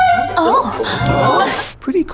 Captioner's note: crowd gasps